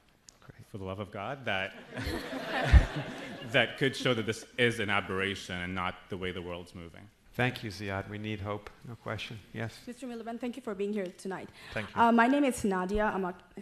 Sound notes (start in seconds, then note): 1.8 laughing